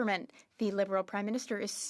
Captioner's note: speaking French